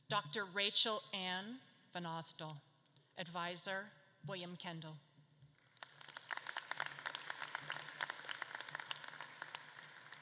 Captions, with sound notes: Dr. Rachel Ann Vanausdall, advisor, William Kendall. (audience claps)